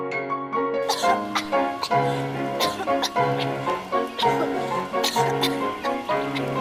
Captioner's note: coughing